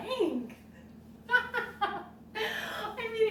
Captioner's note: laughs